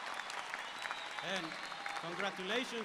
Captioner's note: speaking Spanish